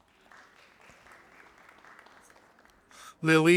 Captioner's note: audience applauding